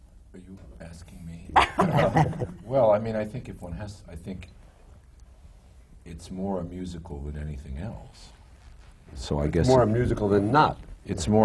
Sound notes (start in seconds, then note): 1.6 laughter